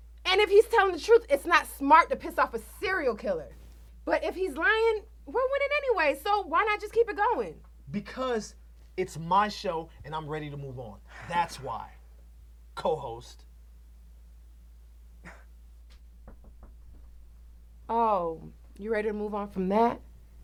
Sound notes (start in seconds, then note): 16.2 glass knocks